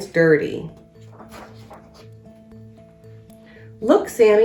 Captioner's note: uplifting instrumental music; pages shuffles